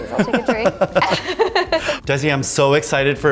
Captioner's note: both laughing